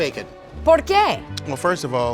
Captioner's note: foreign language